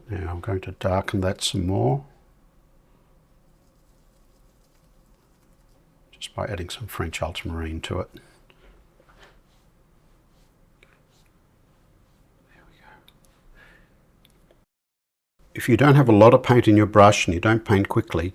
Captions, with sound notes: Now I'm going to darken that some more. [silence] Just by adding some French ultramarine to it. [silence] There we go. [silence] If you don't have a lot of paint in your brush and you don't paint quickly,